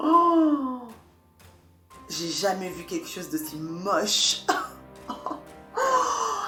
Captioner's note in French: rires